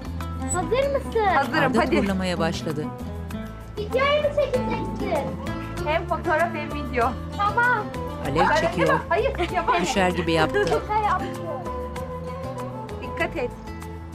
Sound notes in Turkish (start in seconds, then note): 8.6 Gülme sesi